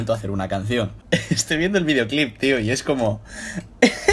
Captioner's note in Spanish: Risas